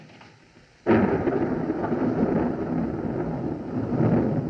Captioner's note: thunderclap